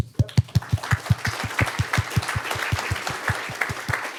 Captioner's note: applause